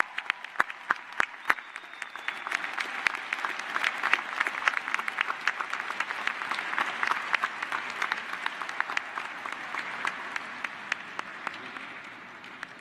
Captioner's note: applause